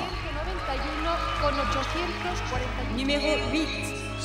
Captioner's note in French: acclamations